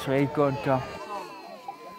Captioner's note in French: voix de terrain de jeu